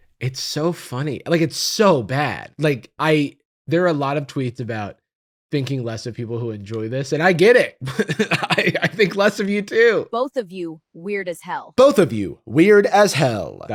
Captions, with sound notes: It's so funny. It's so bad. There are a lot of tweets about thinking less of people who enjoy this, and I get it! (laughing) I think of less of you too! Both of you, weird as hell. "Both of you, weird as hell."